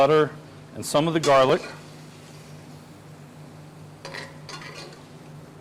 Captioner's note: utensil scraping